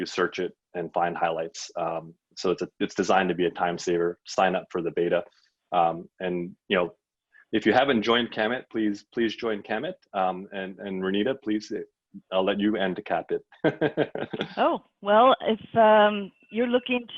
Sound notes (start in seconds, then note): 13.6 laughs